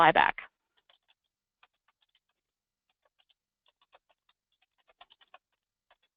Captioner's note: computer keyboard keys tapping